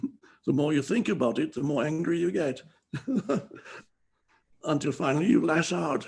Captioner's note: laughs